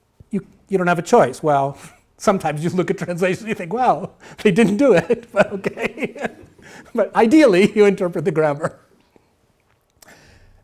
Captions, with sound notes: You don't have a choice. Well, sometimes you look at translation, you think, well, they didn't do it, but okay (laughing). But ideally, you interpret the grammar (chuckling).